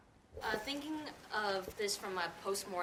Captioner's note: voiceover